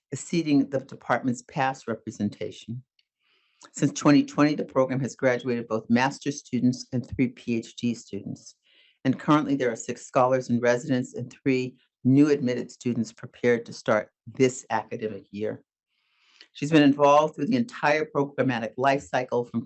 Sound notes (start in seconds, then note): none